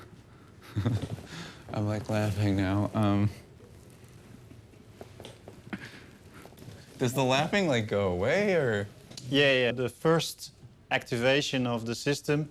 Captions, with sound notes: Like a little... - Yeah. (chuckles) I'm, like, laughing now, um... (laughing quietly) Does the laughing, like, go away or... - Yeah, yeah, yeah, the first activation